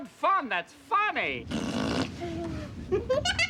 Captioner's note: sputtering; laughing